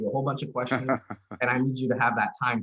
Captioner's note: laughing